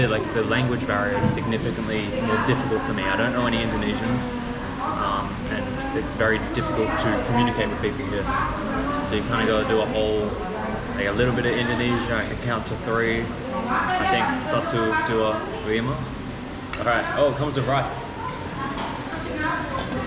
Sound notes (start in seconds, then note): 14.4 speaking local language